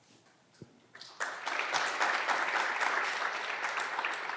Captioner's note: clapping continues